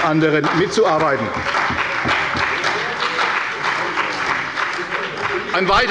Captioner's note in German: Beifall bei der CDU und dem BÜNDNIS 90/DIE GRÜNEN